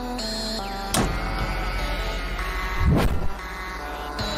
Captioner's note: suspenseful music; door thuds